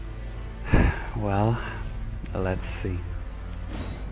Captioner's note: exhale